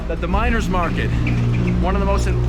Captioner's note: car humming